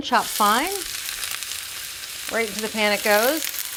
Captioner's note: onion sizzling